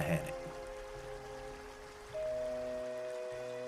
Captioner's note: river water flowing